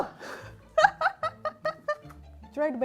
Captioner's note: laughing